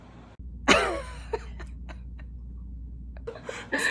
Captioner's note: laughs